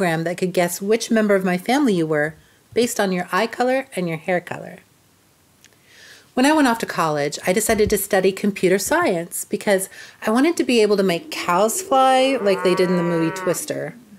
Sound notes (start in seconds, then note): 11.2 cow moos; 11.7 air wheezes